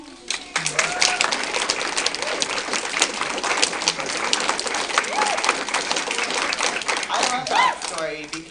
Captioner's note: applause